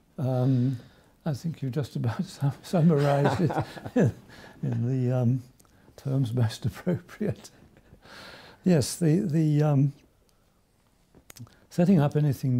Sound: chuckles

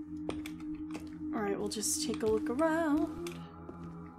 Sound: sing-song

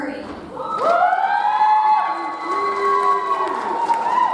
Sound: audience cheers

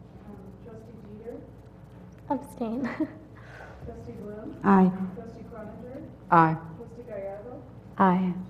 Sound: laugh

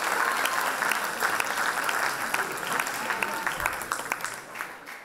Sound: applause and cheer

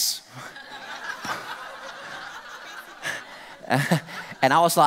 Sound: audience laughter

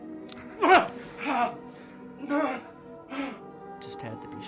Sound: Dwight groans

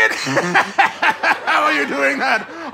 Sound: hearty laugh

